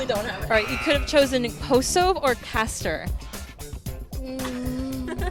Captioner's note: laughter